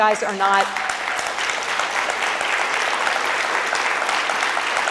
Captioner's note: audience applauds